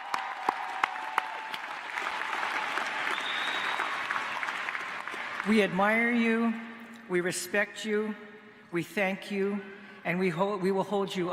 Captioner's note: applause